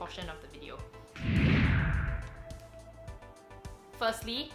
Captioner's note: low whooshing